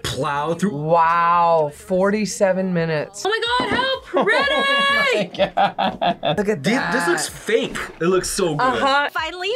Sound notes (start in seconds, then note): 3.5 laughs